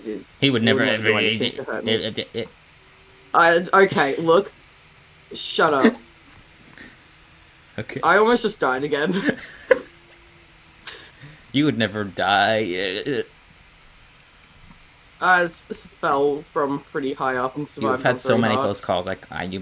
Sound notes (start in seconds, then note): 5.7 laughs; 9.3 laughs again